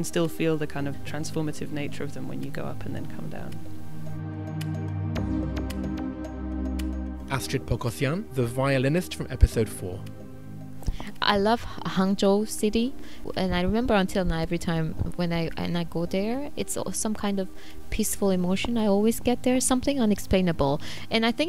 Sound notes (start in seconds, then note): 4.8 voiceover